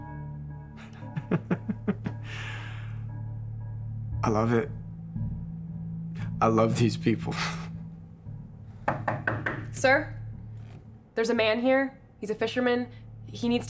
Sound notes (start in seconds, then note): 0.8 laughs; 8.8 knocks on the door